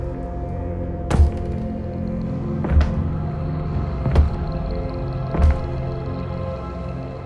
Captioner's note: suspenseful music; thumping